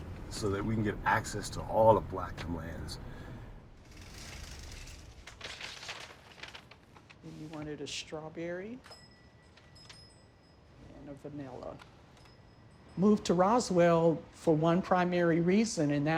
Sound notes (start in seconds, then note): 5.5 bag rustling; 8.8 bell ringing